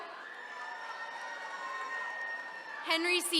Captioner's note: attendees cheering